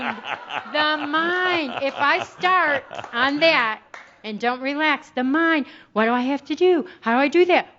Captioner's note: Adamus chuckles